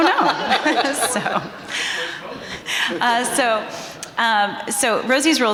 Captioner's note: everyone laughing